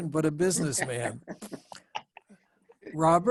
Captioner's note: laughs